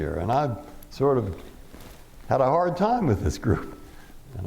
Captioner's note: none